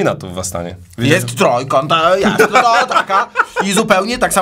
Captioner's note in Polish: śmiech